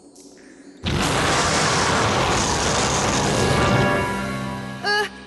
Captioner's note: roars